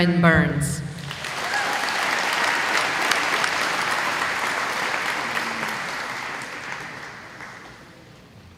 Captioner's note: applause